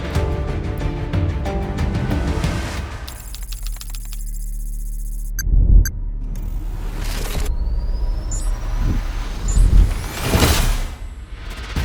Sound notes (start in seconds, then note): 3.3 electricity fizzing; 3.3 keyboard clacking; 8.9 ambient music